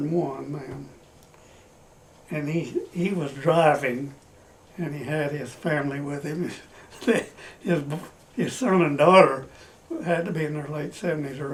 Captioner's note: laughs